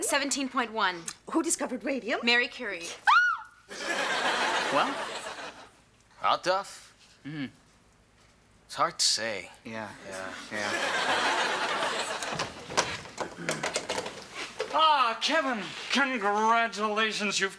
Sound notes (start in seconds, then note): 3.0 Morgan squeals; 3.7 audience laughs